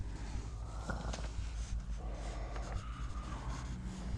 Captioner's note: wolf grumbling